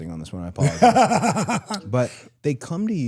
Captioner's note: DDP laughs